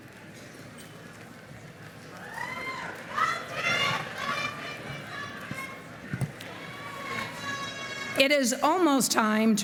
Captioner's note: shouting